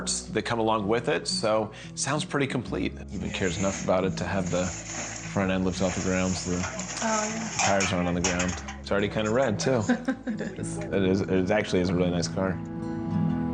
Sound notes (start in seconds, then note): 9.7 chuckles